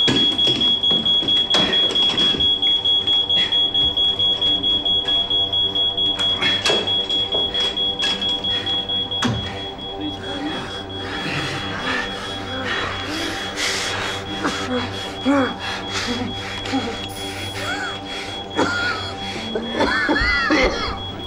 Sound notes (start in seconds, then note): 17.2 oxygen hissing; 18.5 Tim coughing